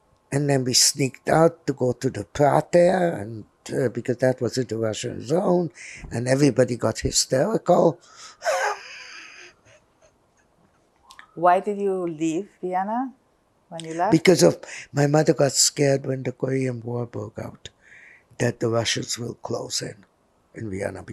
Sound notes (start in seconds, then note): 8.3 laughing